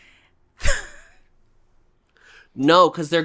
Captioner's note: laughs